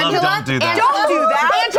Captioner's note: group laughing